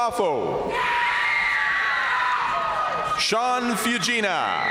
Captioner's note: crowd applauding; crowd cheering